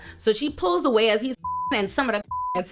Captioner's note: beep